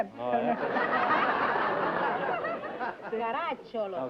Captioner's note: laughter